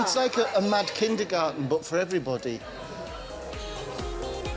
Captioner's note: stutters; japanese music playing